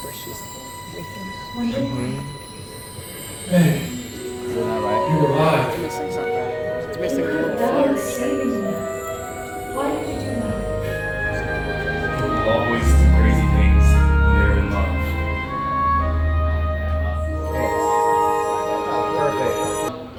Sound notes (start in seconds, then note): 5.4 indistinct chatter